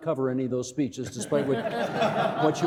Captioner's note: all laughing